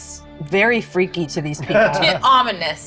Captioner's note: laughs